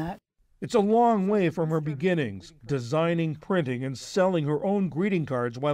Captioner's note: voice-over